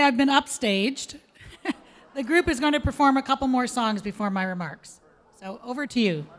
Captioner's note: chuckles